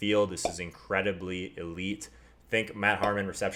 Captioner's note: pop